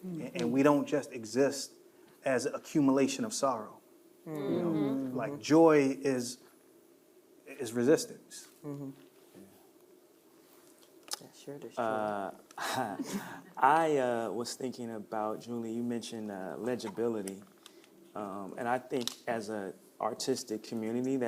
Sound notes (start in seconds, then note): 11.4 murmuring; 12.6 chuckling